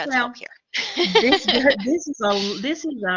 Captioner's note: laughter